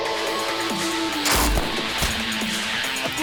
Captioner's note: gunshot